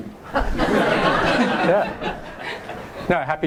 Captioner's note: voiceover; audience laughs